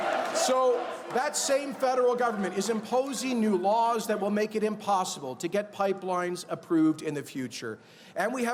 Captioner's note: chanting build those pipes